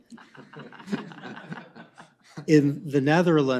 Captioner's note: laughter